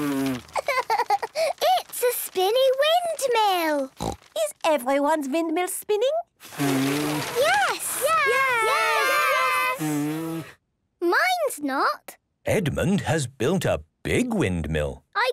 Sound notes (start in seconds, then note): 0.0 blows; 6.4 blowing, fluttering; 10.3 blows